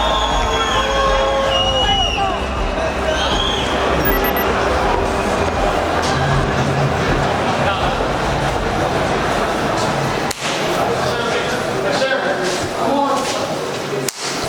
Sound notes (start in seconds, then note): 4.4 loud crowd drone